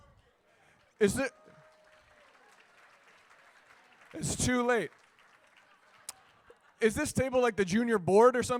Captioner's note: applause